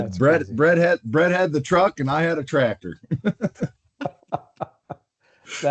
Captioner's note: laughter